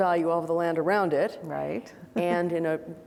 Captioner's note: chuckles